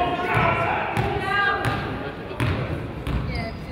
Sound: coaches yell

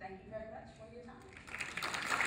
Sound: applause from audience

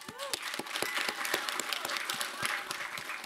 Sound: applause

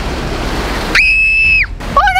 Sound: screaming

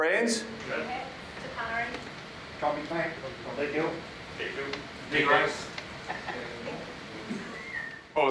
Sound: audience reponses

